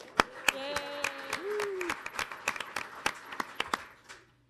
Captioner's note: audience applauding